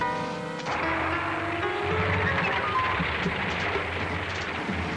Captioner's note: tank engine rumbles